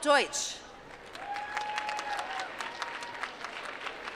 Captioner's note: applause